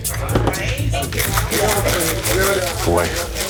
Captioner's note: shaking